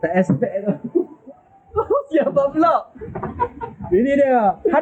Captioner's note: laugh